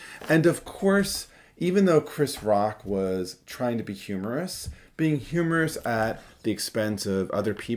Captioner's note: none